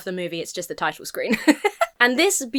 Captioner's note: laughs